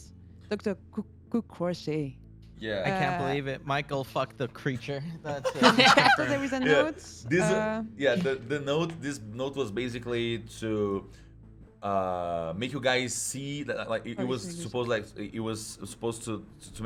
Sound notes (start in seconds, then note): 5.4 laughing; 13.8 stutters